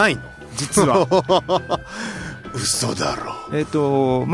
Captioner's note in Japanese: 笑い